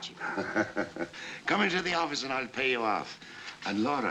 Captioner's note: laughs